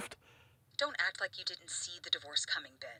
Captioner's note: on phone